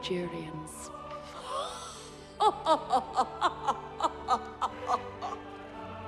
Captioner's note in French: des rires